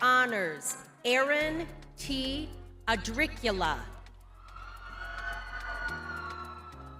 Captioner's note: crowd cheers; mellow music